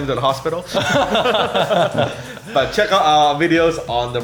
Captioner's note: laughter